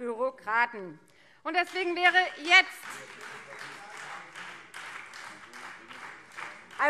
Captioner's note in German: Beifall Freie Demokraten - Zurufe BÜNDNIS 90/DIE GRÜNEN